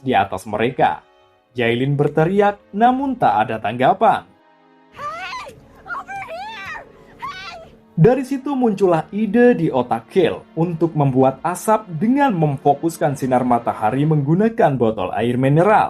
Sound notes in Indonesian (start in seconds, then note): 5.8 Jayline berteriak